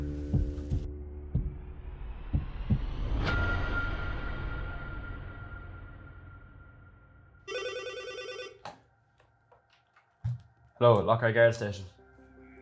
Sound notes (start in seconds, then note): 7.4 phone rings